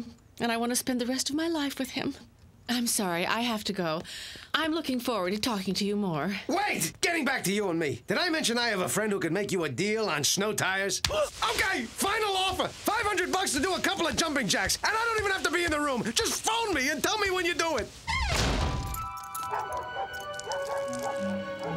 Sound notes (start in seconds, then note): 18.1 <i>door slams</i>; 19.4 <i>barking</i>